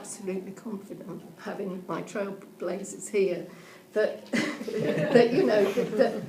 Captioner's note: audience laughing